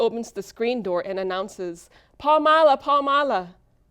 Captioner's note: speaks foreign language